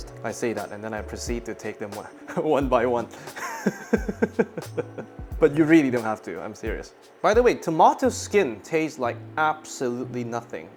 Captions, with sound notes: I say that and then I proceed to take them one by one. [laughing] But you really don't have to, I'm serious. By the way, tomato skin tastes like absolutely nothing.